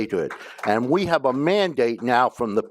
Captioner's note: applause